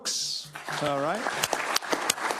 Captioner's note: applause